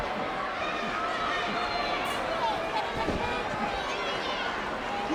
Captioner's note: audience chattering